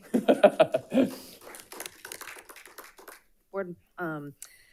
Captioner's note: audience applauding